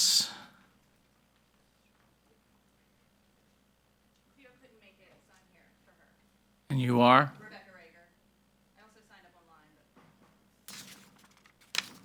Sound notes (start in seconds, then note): 4.8 participant faintly speaking; 7.8 participant faintly speaking